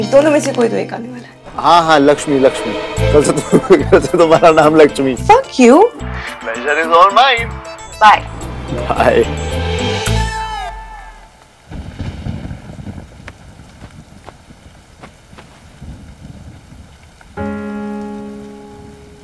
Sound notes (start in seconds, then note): 11.6 Clouds thundering